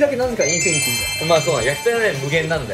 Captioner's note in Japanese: 効果音 キラリン✨